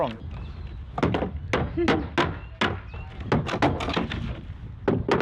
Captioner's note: hammer banging